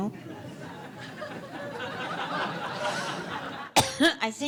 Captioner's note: audience laughs